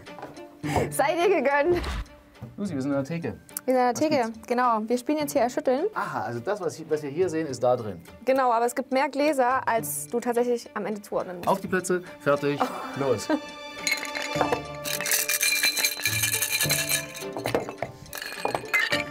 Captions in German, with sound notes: Es sei dir gegönnt. Wir sind an der Theke. - Genau, wir spielen "Erschütteln". Aha, was wir hier sehen, ist da drin? Genau, aber es gibt mehr Gläser also du zuordnen musst. Auf die Plätze, fertig, los! *verschiedene Klapper-Geräusche*